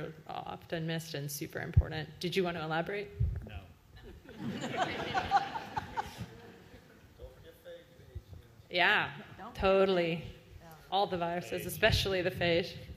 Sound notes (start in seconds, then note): 5.9 laughter